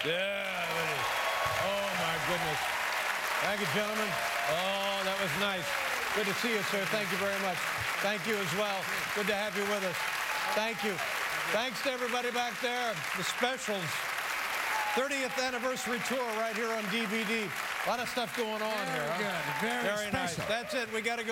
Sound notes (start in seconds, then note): 3.0 cheers and applause; 6.7 applause